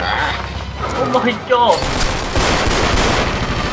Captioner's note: awful Voice